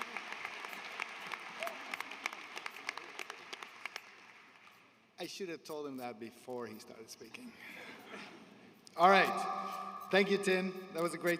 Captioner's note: applause